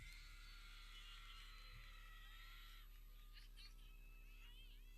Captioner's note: people cheering